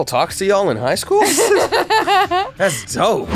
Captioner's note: laughing